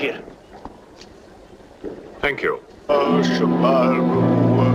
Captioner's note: chanting